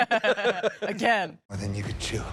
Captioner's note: chuckling